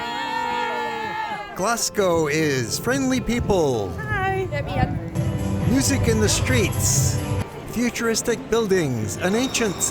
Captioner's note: kids cheer